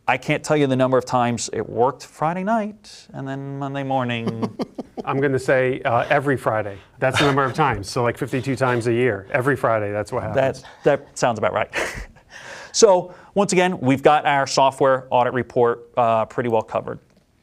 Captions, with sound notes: I can't tell you the number of times it worked Friday night, and then Monday morning. [chuckles] - I'm going to say, every Friday, that's the number of times. So like 52 times a year, every Friday. That's what happened. - That sounds about right. Once again, we've got our software audit report pretty well covered.